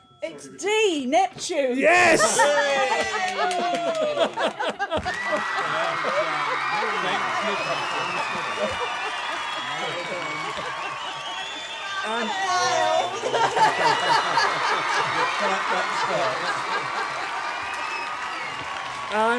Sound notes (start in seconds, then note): 2.6 laughter; 5.0 applause